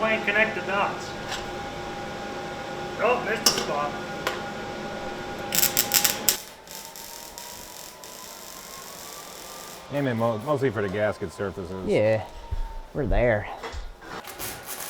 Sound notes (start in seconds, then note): 5.8 tools buzzing